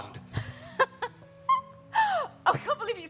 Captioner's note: giggles